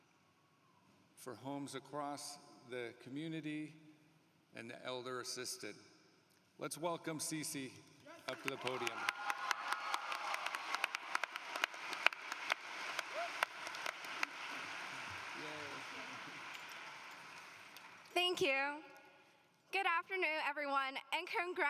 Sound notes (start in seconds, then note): 8.2 applause